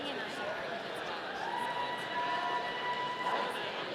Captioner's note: audience cheering